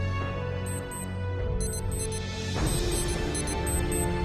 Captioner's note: beeping